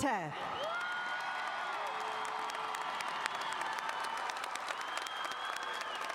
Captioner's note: audience cheering and applauding